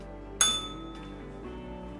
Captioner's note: bell rings